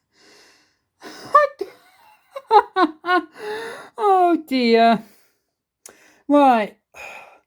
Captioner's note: laughing